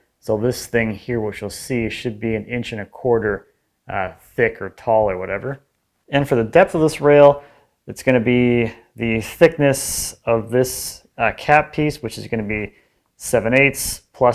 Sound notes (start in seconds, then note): none